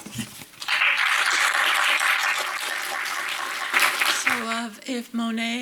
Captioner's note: audience applauds